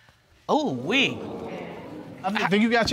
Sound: audience exclaims

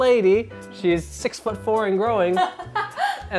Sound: laughing

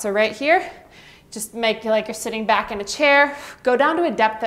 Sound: exhales

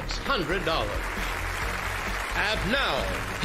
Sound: applause

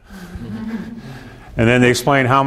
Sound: students chuckle

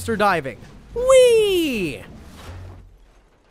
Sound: cheers

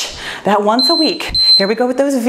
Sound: timer beeping

